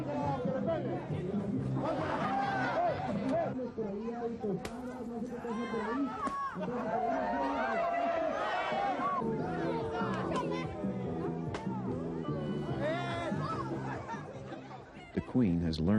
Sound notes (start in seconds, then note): 1.8 laughter; 7.0 cheers and applause